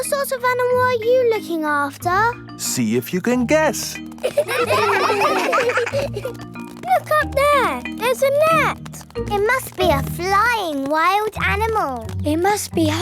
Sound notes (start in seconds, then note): 4.1 children laughing